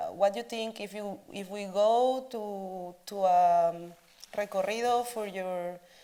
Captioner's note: speaks Spanish